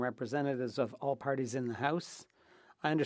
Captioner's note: speaking French